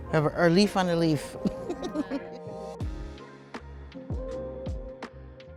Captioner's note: laughing